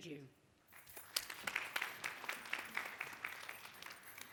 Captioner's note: audience applause